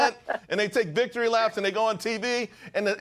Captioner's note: laughter